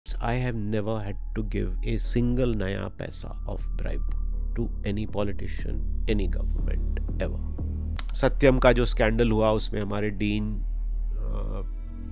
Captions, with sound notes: I have never had to give a single penny of bribe to any politician (SPEAKS HINDI). Any government ever. The scandal that took place at Satyam, our Dean was the Chairman of the